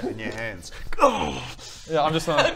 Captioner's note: urghh